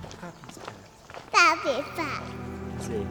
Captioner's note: cute baby voice trying to say “Poppy’s Path”